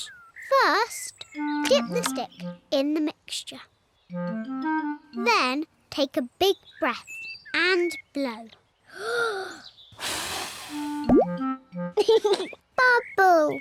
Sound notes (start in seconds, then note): 9.9 takes big breath and blows; 12.0 laughs